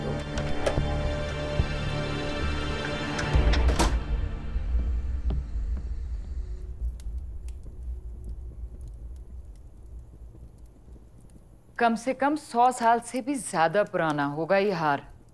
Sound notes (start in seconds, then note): 0.1 Door opens; 2.6 Door closes